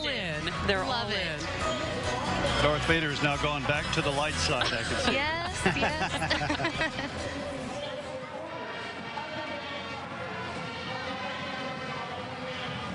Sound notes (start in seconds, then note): 0.2 laughing; 4.7 holiday music; 8.9 laughing